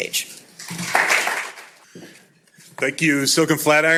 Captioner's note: applause